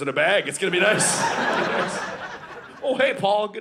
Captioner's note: audience laughing